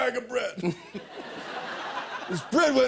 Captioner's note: laughter